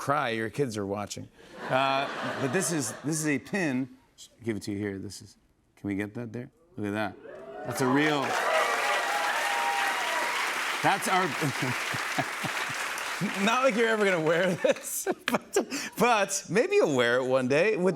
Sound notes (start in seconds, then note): 1.6 laughter; 7.3 cheers and applause; 11.6 laughs